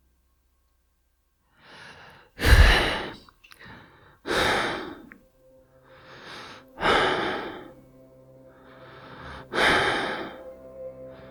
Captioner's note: heavily breathing